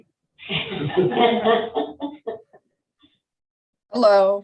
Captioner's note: all laughing